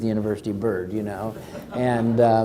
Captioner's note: crowd laughs